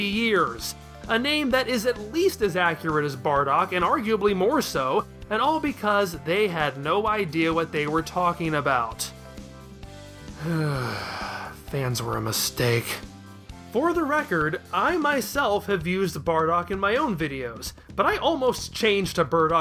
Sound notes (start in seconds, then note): 10.3 sigh